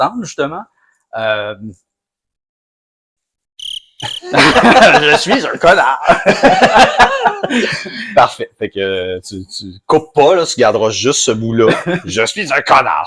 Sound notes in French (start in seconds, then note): 3.6 Son de criquets